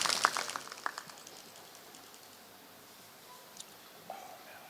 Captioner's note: applause